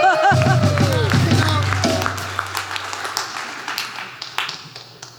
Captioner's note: applause